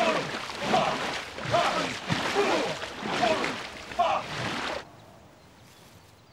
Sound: non-english speech

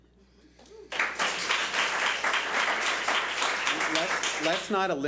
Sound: public applauding

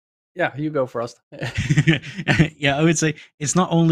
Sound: laughs

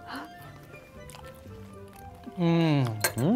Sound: everyone chewing

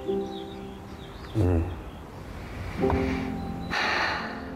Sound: sighs heavily

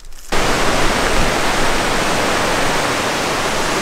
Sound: water rushing

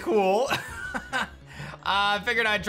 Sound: chuckles

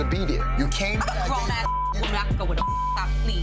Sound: beep

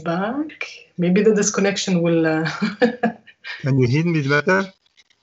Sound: laughs

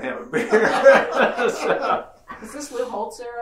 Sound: laughing

